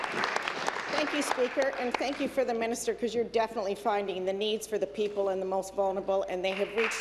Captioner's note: applause